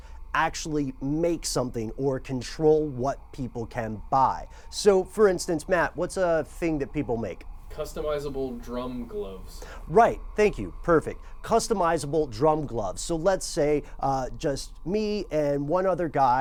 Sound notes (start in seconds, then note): 7.6 voiceover